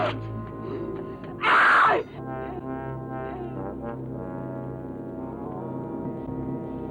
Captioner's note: dramatic music; Muriel screaming